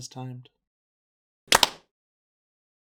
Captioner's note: disjointed clapping